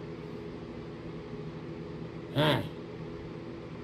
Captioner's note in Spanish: Caprice suspira